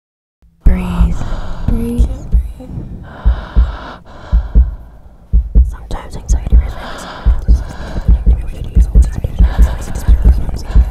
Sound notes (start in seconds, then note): 0.8 heavy breathing, loud heart beat; 5.2 whispering